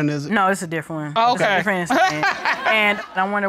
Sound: laughs

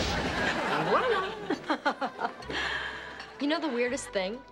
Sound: audience laughs; laughs

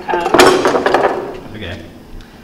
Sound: tools thudding

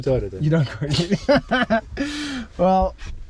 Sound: laugh

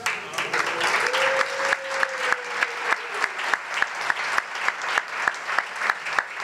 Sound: applause

